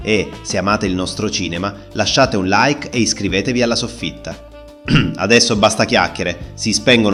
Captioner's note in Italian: schiarire la voce